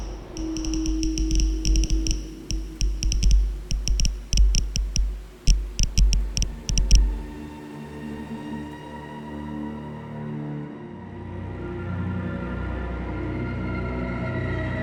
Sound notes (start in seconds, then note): 1.6 sensor crackles; 9.9 quiet, mournful music